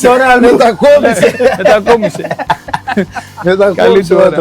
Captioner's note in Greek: γέλια